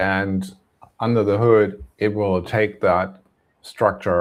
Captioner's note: none